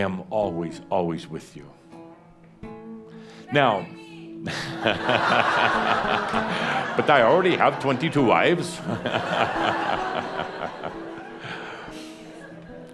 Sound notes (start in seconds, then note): 1.7 someone shouts out “Marry me!” to lots of laughter; 8.2 more chuckles